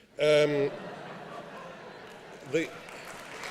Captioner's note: applause